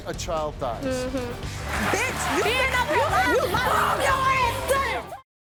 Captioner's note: screaming and fighting